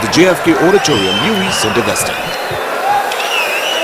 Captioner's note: wild applause and cheering for 22 seconds